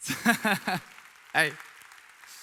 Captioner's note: audience applauding